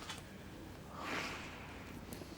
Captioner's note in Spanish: Jim suspira